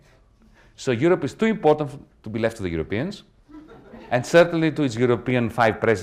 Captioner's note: laughter